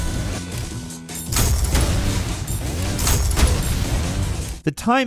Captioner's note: explosion booms